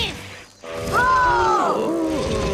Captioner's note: Finbarr moaning